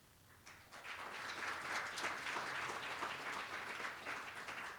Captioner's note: applause